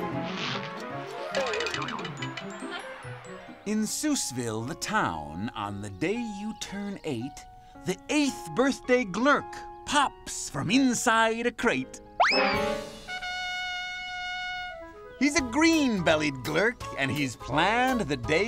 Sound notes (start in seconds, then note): 1.0 boing!; 12.2 blowing horn